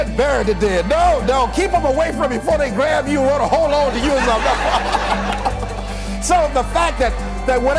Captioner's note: laughter